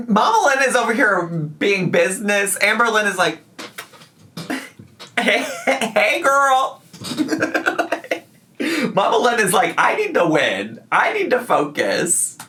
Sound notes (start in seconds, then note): 7.0 laughs